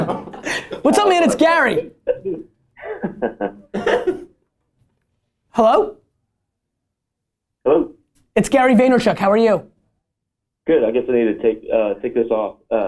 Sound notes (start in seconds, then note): 2.7 laughter